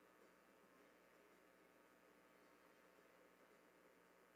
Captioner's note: none